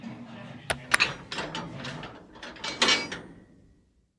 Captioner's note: locks clanging